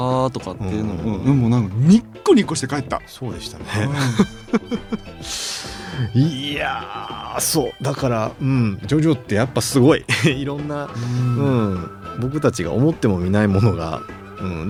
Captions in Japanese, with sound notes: うん。で、もうなんかニっこニコして帰った。 そうでしたね。 うん。[笑い] [鼻息] いや、そうだからうん。ジョジョってやっぱすごいろんな うん。僕たちが思っても見ないものがうん。